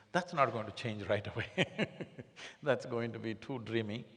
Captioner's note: laughs